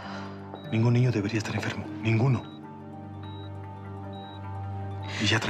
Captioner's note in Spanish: Ella exhala